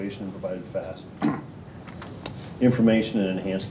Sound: cough

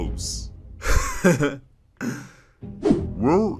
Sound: laughter

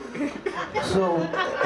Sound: audience laughs

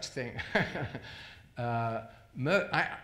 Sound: laughs

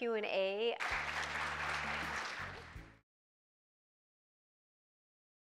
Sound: audience applauding

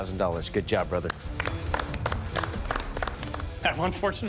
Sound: clapping

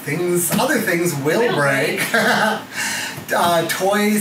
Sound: laughs

